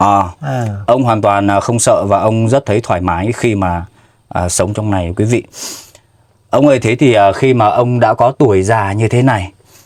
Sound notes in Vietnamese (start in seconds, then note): 5.6 khịt mũi